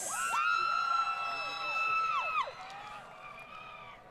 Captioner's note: crowd Cheering